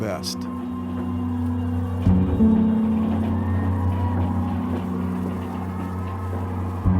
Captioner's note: solemn ambient music; distant cheering